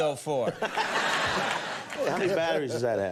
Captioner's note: audience laughs